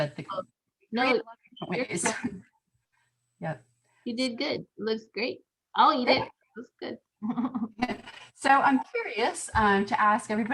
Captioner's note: laughter